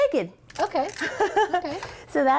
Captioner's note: laughs